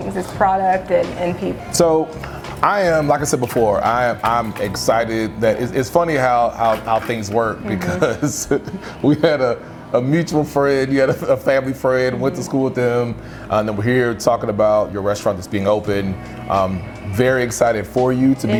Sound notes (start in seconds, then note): 7.6 chuckling